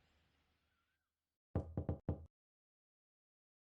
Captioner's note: knocking